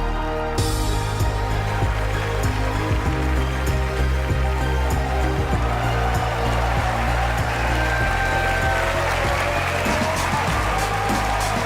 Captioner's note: applause